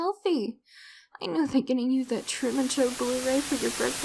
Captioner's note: slowly increasing static